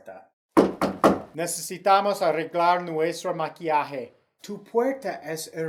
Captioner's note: three loud knocks